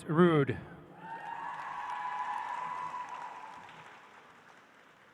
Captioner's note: audience applauds